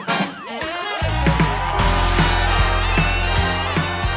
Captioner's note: applause